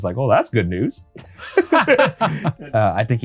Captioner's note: both laughing